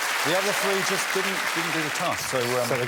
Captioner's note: applause